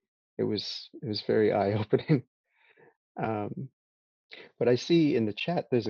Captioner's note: laughs